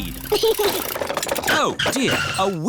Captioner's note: chuckles